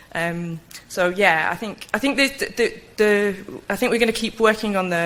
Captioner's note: stutters